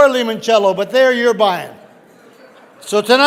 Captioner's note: audience laughing